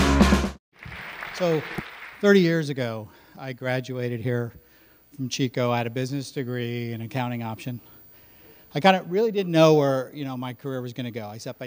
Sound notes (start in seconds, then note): 0.0 intro Music; 0.7 audience Claps